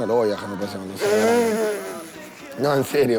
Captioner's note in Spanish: Risa burlona